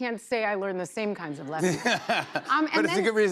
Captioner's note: laughter